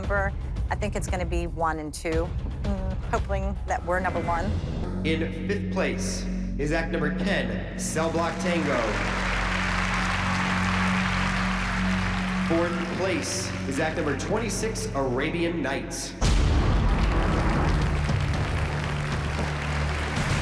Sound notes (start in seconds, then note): 8.0 applause; 8.9 dramatic music plays; 15.9 dramatic musical sting; 16.5 applause; 17.6 tense music plays